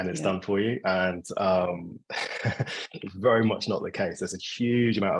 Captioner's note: laughing